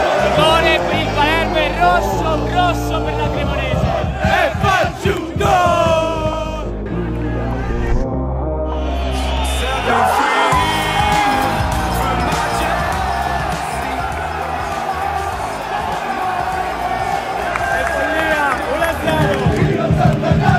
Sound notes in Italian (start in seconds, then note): 7.5 Applauso